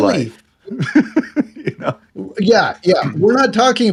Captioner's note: laughing